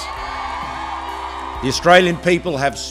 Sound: cheering

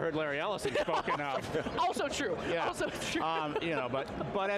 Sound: laughs

